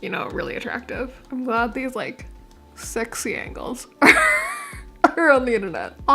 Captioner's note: laughing